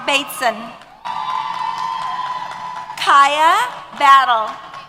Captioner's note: applause & Cheers